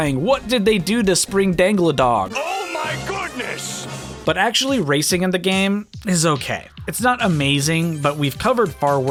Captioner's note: Plankton's voice